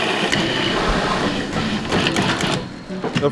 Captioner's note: grinding